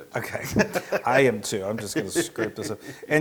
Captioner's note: laugh